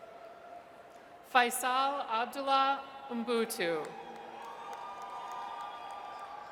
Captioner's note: audience cheers